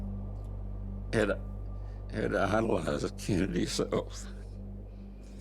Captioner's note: voice breaking